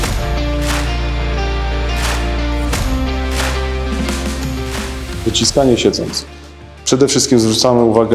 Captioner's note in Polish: Aplauz